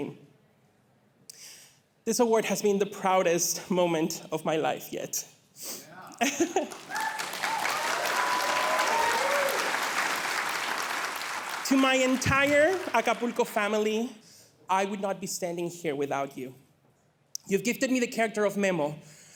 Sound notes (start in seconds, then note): 6.6 audience cheering